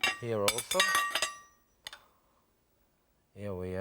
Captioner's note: spoon clattering